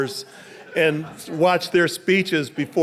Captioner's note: audience laughing